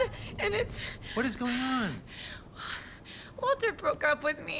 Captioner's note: breaths heavily